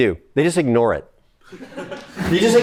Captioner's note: laughter